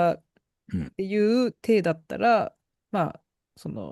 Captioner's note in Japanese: 咳払い